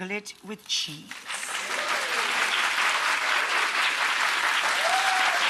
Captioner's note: crowd applausing